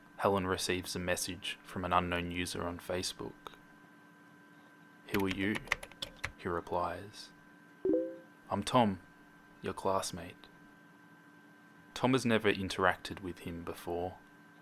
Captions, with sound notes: Helen receives a message from an unknown user on Facebook. [Hitting keys on keyboard] “Who are you?” He replies. [Facebook message sound] “I’m Tom, your classmate.” Tom has never interacted with him before.